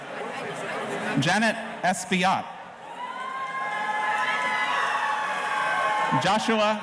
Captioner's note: audience cheering